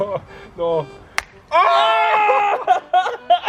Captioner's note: the cries of the misfortunate